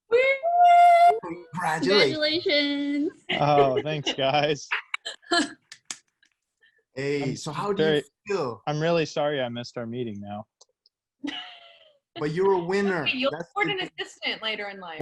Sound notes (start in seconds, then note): 5.1 claps; 10.4 laughs